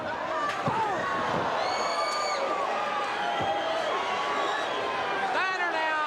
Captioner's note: crowd chatter; crowd cheering